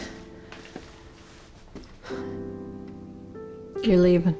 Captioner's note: sighs